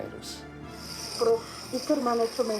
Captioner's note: oxygen blowing